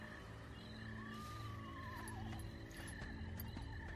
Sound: footsteps approaching

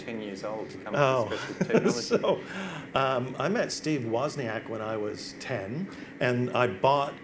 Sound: laughs

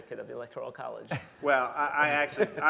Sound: laughter

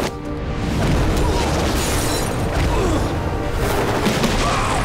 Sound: grunting, shattering; screaming

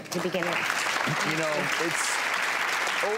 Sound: audience applause

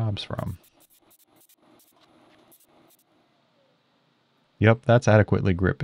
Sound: machine screeching

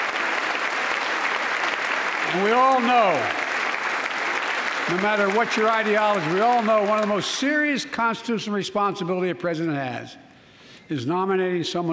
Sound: applause

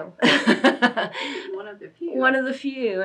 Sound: laughs

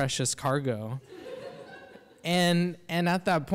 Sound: audience laughs

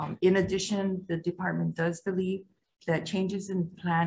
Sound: none

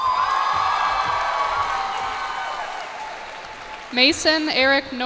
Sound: cheers and applause

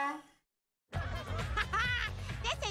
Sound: chuckles

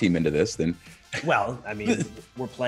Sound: laugh

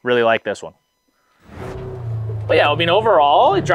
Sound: engine revving

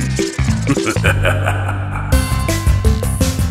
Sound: spooky laughter; upbeat music

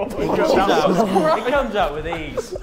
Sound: Sidemen laughing

